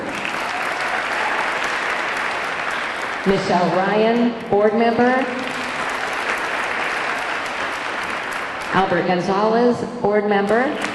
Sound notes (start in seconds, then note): 0.0 audience cheering; 0.0 audience clapping; 5.4 audience cheering; 5.5 audience clapping